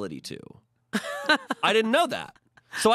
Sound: laughs

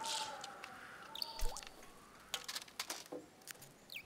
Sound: howling wind; chirping

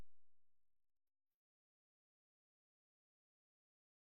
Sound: silence

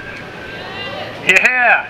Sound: crowd

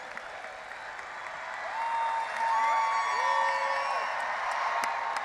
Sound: audience applauding and cheering

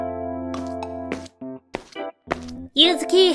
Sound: footsteps

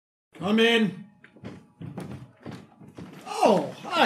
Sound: door opening

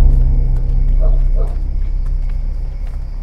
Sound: distant barking

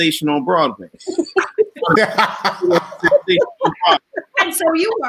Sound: all laughing

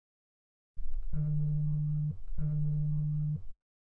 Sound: vibrations and Unlock Noises

